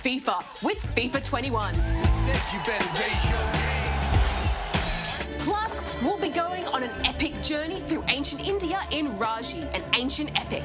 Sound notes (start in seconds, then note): 1.8 crowd roars; 2.0 hip-hop music